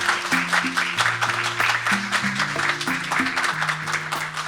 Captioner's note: audience Applause